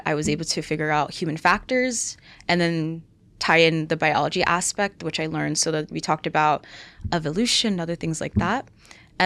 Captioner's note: none